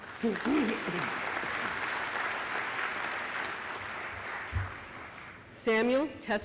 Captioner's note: applause